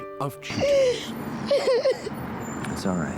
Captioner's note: sobbing